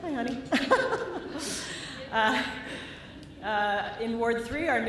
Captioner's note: laughter